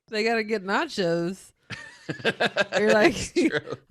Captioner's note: laughing